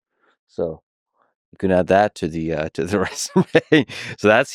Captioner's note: laughs